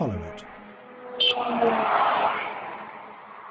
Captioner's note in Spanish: pitidos de cláxon